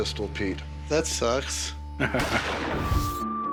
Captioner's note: laughs